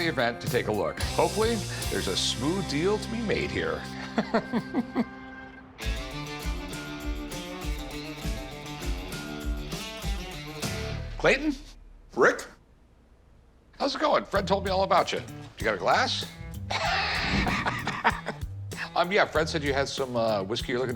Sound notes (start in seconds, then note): 3.8 Rick laughs; 5.4 upbeat music playing; 16.7 Rick laughing